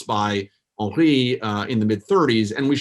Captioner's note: foreign language